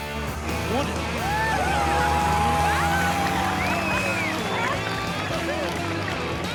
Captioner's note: cheering